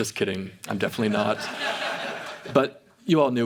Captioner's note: audience laughs